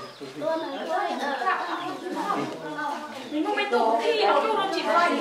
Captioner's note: chattering